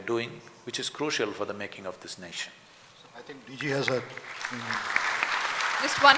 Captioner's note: applause